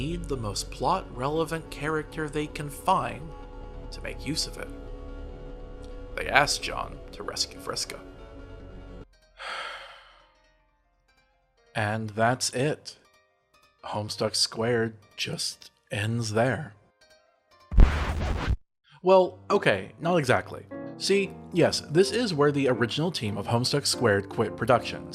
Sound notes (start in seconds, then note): 9.3 deep breath; 17.7 record scratch